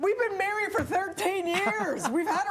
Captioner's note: laughter